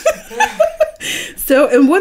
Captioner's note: laughing